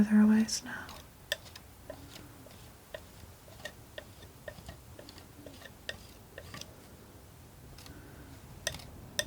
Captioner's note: tapping